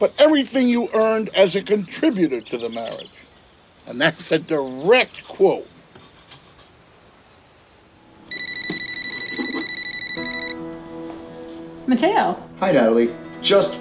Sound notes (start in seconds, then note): 8.1 mobile phone ringing; 10.9 gentle music